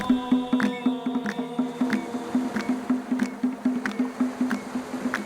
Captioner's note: rhythmic clapping